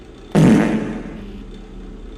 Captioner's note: fart